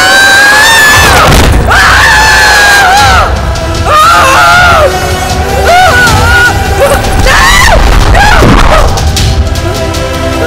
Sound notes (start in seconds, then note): 1.6 Amma screaming